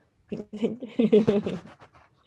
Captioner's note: giggles; speaking foreign language